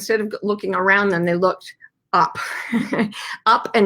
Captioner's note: laughs sarcastically